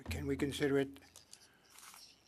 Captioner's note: speaking French